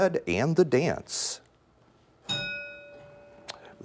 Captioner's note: bell rings